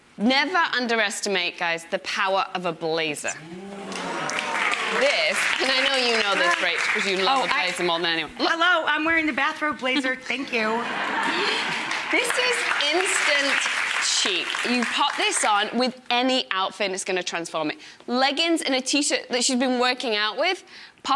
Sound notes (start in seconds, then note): 3.4 audience exclaiming; 3.8 audience clapping; 9.9 audience laughing